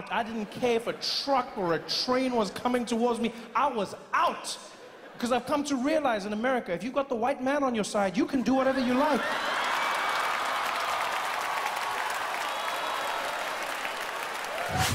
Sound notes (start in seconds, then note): 8.6 audience cheering